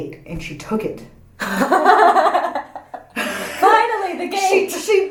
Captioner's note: laughs